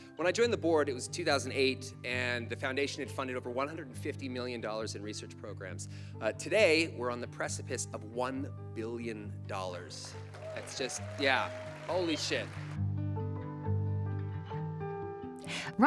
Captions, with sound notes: When I joined the board, it was 2008, and the foundation had funded over $150 million in research programs. Today we're on the precipice of $1 billion. (audience applauds) That's just, yeah. Holy shit.